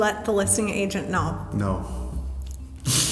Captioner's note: laughs